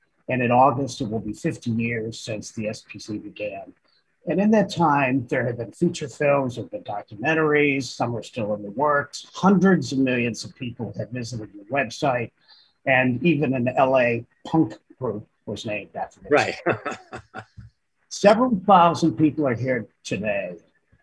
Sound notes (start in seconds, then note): 15.6 laughing